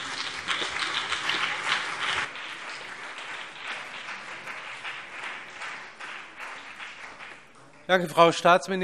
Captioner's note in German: Beifall CDU und BÜNDNIS 90/DIE GRÜNEN